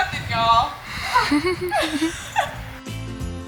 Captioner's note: all laugh; upbeat music